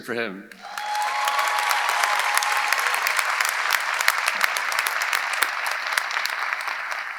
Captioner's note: audience applauding; audience cheering